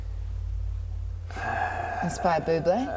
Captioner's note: sighs